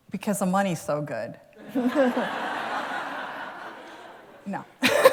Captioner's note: laughter